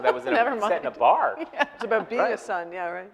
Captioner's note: laughing